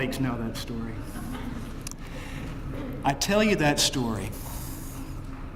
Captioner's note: laugh